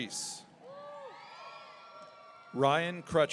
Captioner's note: audience cheering